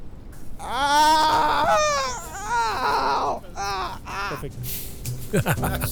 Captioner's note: screams